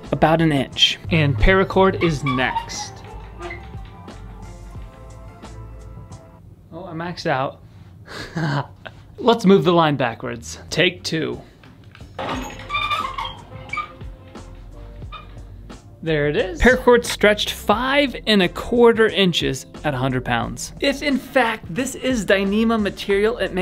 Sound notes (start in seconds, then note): 12.2 pulley squeaks